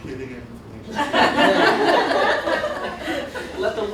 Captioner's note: laughter